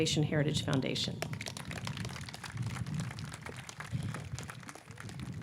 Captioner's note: audience clapping